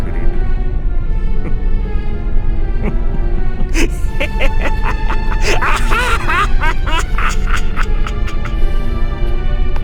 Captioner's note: maniacal laughter